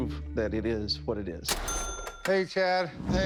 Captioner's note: cash register chiming